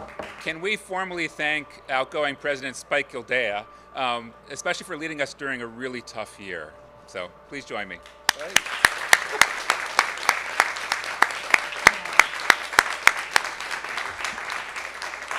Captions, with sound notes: can we formally thank outgoing president Spike Gildea especially for leading us during a really tough year so please join me (applause)